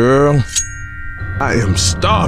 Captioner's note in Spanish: cuchillo desenfundado